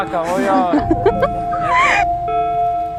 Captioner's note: laugh